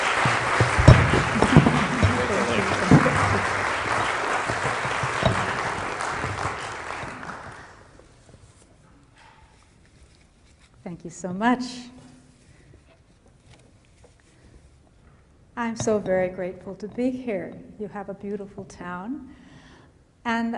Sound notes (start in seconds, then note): 3.3 applause